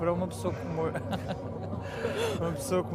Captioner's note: laughter